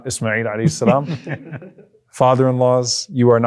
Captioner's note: everyone laughs